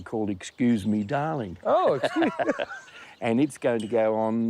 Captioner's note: both laugh